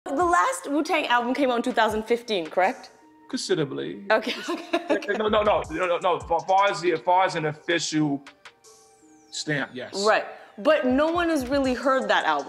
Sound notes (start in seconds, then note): 4.2 laughing